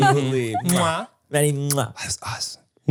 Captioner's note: smooches